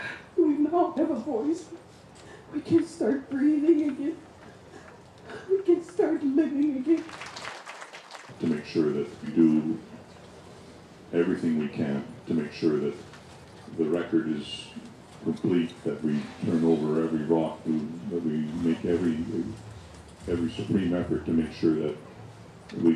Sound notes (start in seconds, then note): 6.9 applauding